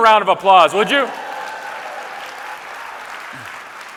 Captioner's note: applause